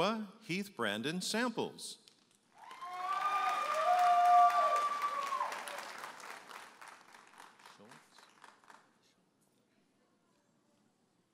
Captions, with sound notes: Noah Heath-Brandon Samples. (audience applauding and cheering)